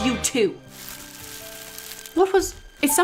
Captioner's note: bush rustles